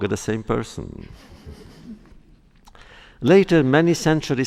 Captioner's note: laughter